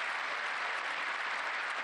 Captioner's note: applause